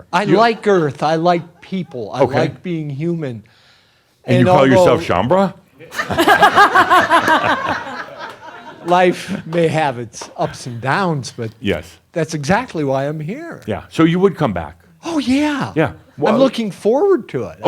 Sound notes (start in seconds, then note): 5.8 lots of laughter